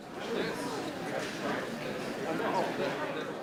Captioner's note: people chattering